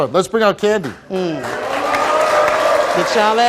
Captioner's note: audience applauds